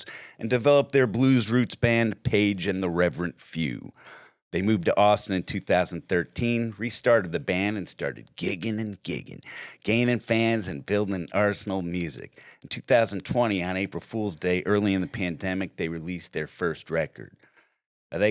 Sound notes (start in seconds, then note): none